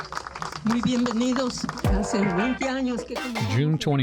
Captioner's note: speaks foreign language